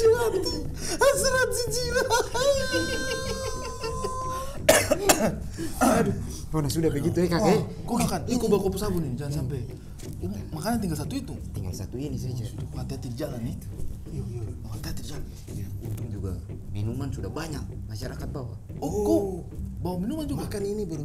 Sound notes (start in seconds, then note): 4.7 chuckling; 6.9 laughing